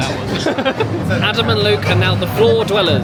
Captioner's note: laughs